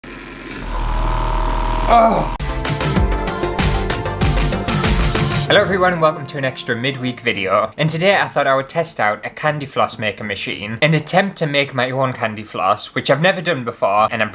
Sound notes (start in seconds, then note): 0.0 motor Noises; 2.3 intro Music